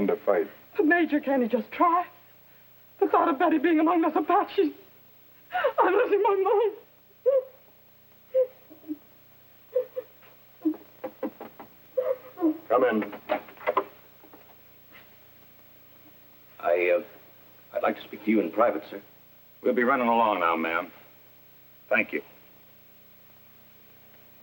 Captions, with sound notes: to fight. Major can't he just try? The thought of Betty being among those Apaches. Im loosing my mind. [sobbing] [knock on door] Come in. I um, I'd like to speak to you in private sir. We'll be running along now ma'am. Thank you.